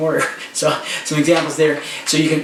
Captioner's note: chuckles